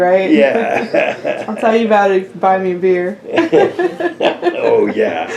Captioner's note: laughter